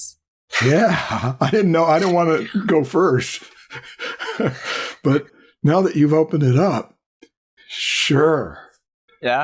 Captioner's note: chuckles